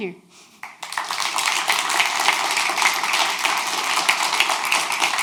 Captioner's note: audience applauds